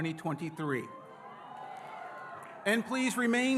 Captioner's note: audience cheering